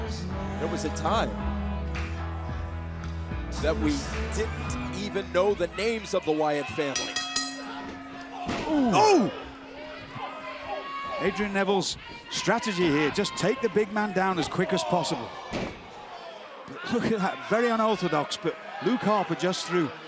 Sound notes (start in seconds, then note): 6.8 bell ringing